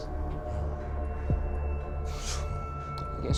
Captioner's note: whispers